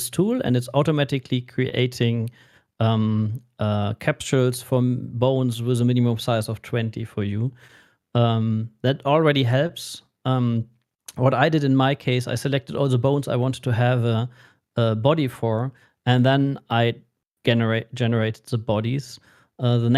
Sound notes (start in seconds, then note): none